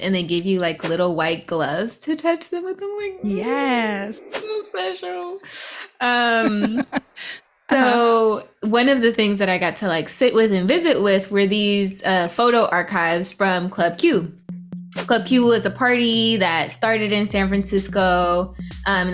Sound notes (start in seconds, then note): 3.3 quietly squeals